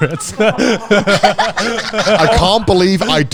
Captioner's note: everyone laughing